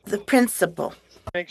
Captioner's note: speaking French